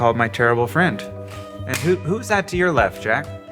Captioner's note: hands clap